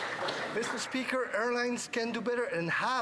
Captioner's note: some Applause